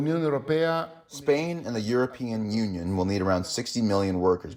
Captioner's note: through translator